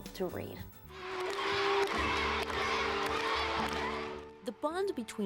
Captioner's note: children clapping and cheering